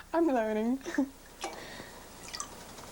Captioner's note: pouring noises